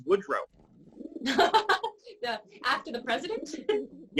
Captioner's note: laugh